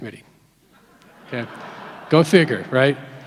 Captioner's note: audience laughs